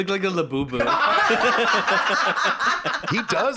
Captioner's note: all laughing; laughs